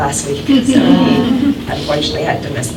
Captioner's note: laughter